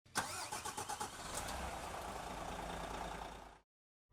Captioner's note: car engine starting